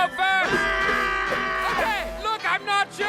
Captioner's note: yells like a wronged toddler